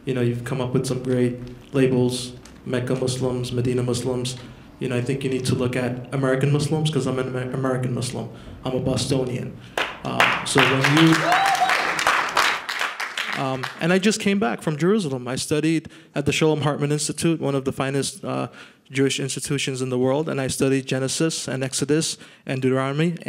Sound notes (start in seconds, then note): 9.7 applause